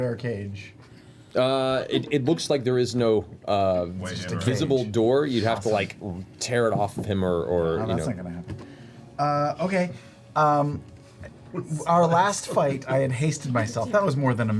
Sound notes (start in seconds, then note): none